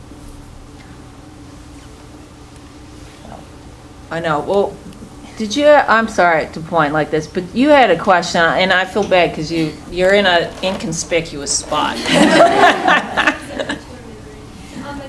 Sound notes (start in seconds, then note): 11.7 laughing